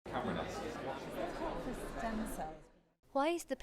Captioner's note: crowd chattering